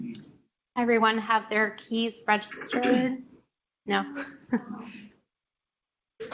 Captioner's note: chuckles